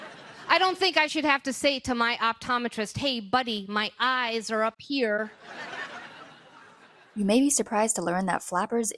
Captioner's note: audience laughter; audience laughter